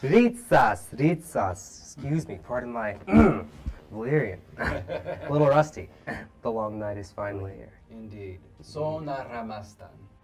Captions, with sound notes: Rytsas, rytsas! Excuse me, pardon my... (clears throat) Valyrian. (laughs) A little rusty. - The "Long Night" is finally here. - Indeed. Sōnar amāstan.